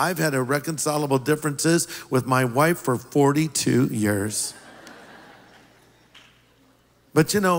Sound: laughter

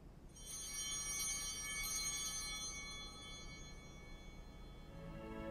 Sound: chimes ringing

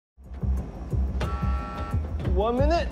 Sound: alarm beep

